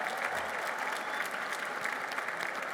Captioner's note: applause